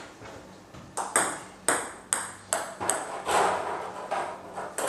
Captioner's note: ball ping pong hitting continues